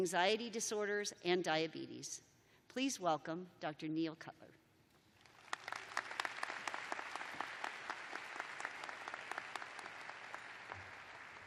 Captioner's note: applause